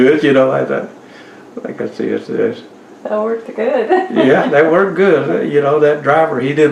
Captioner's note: laughs